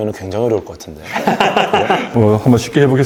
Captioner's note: laughter